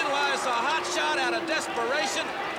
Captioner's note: crowd cheering